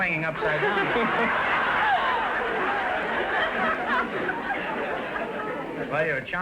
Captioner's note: audience laughter